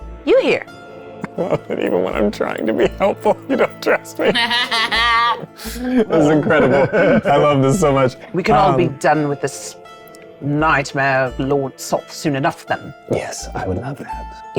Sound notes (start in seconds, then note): 2.6 chuckling